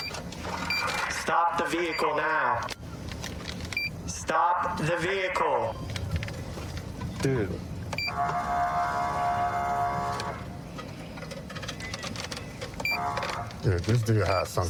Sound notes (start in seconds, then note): 8.0 horn blaring